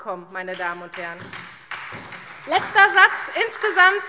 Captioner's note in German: Beifall SPD